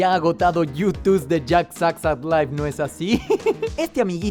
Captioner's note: laughs